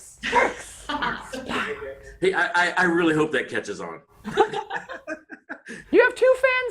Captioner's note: laughing